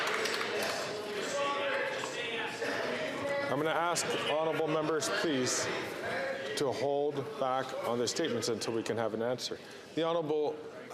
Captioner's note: some Applause